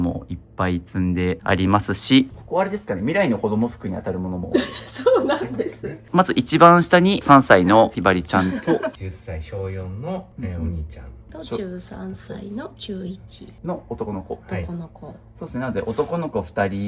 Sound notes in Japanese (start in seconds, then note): 4.6 笑い